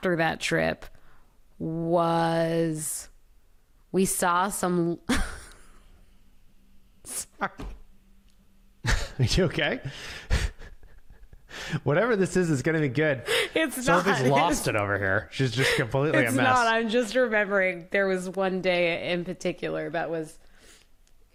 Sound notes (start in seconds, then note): 4.9 laughs; 10.2 laughs